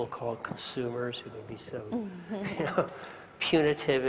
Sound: laugh

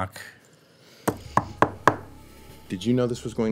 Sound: knocking

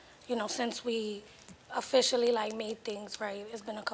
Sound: none

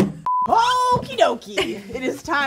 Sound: laughing; chuckles

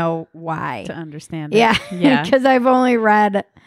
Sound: laughing

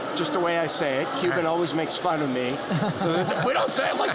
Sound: laughter

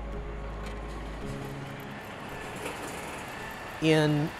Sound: bus motor humming

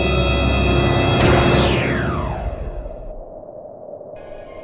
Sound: zap!

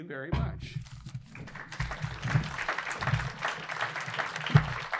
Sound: audience applauding

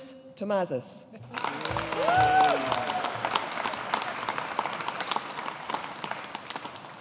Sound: audience applauding

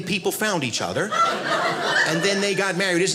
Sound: audience laughing

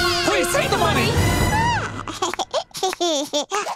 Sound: giggling

